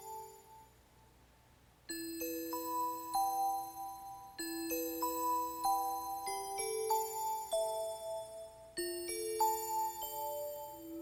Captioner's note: bells ringing